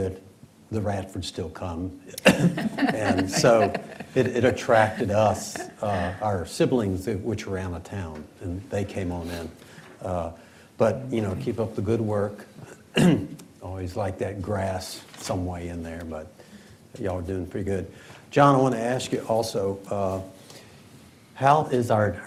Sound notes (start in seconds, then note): 6.3 laughter